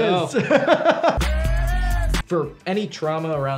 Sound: laughing

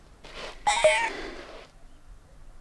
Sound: cell-phone: cat's meoow jingle

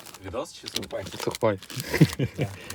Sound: laughter

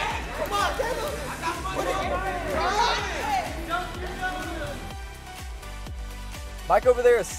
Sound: offscreen cheering, music

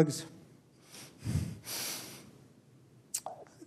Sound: sobbing

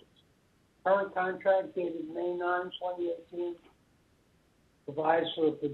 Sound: murmurs

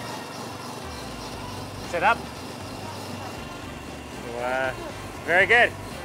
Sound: speaking in foreign language

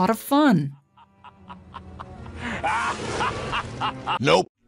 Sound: maniacal laughing

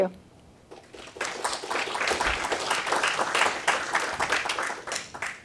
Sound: applause

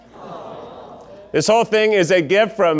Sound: audience gushing

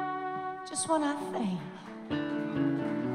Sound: applause

